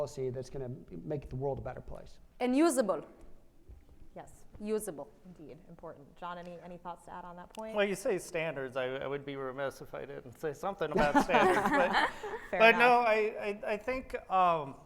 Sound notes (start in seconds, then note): 10.9 laughs